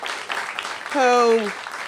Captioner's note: applause